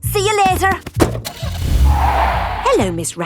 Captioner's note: tires screeching; car starting